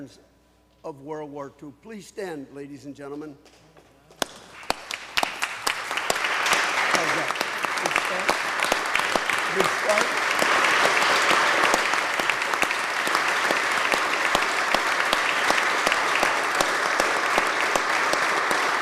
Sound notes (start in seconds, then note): 7.7 applause